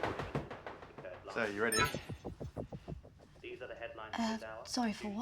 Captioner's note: tense dramatic music; laptop bleeps